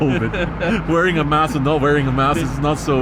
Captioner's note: co-passenger chuckles